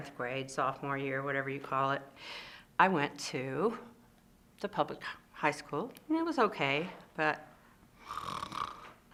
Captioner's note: snores